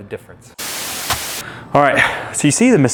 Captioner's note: static